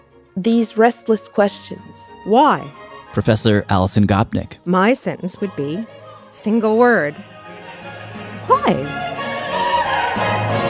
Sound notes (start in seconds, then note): none